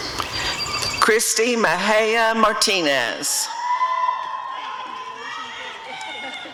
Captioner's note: audience cheering